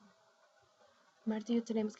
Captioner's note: speaking spanish